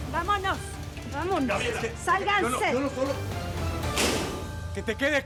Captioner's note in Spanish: Portazo